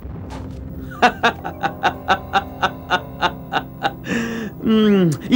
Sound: laughs

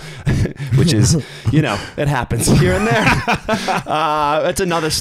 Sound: chuckling; laughs

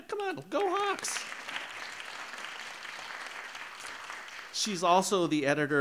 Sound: audience clapping

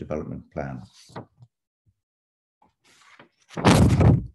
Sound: paper shuffling

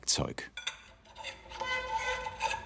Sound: rattling, squeaking

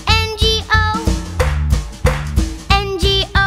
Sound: clap

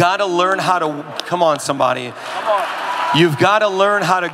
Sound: audience cheering

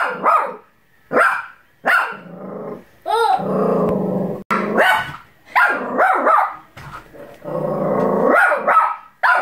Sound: bichon Frize barks

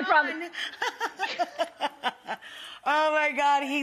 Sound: laughing

